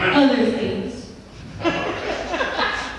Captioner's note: laughs